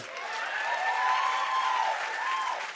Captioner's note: cheers and applause